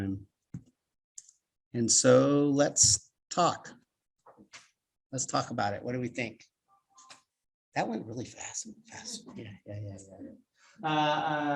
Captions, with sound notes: And so let's talk about it, what do we think? I went really fast, and fast (murmurs).